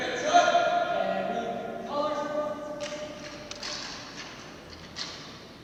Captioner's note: member speaks faintly